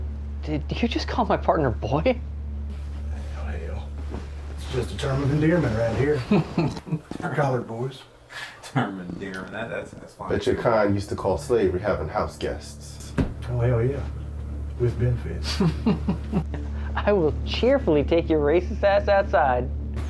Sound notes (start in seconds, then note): 5.8 snickering; 15.1 more snickering